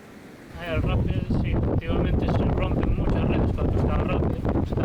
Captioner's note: sound of the rough winds of the Atlantic